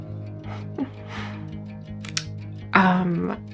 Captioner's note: woman giggles